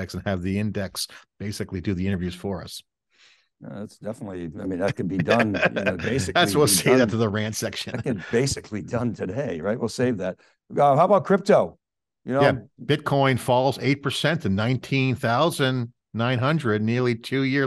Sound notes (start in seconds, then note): 6.6 chuckling; 7.7 chuckles